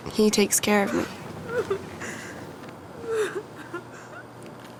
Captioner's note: girl sobbing